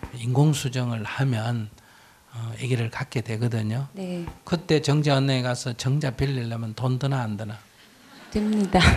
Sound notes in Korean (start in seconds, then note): 8.0 청중 웃음; 8.5 질문자 웃음